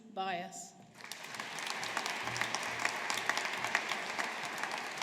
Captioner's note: audience applauding